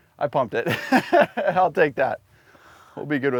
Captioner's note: laughs